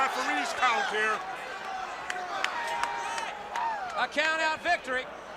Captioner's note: crowd chatter